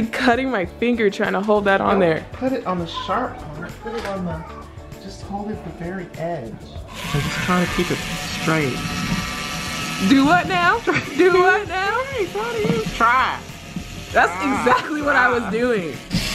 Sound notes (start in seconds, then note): 9.3 drill buzzing